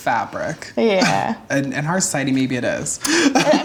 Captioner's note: laughs; laughs